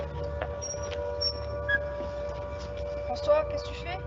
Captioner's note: door creaking